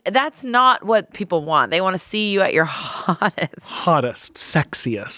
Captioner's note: laughs